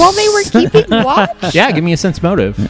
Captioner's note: laugh